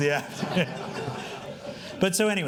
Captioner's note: laughing